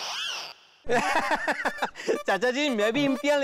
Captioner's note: laughing